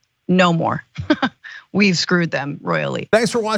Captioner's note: laugh